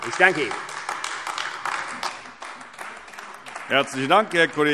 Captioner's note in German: Beifall AfD